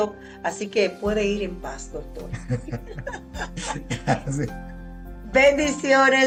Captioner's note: laughs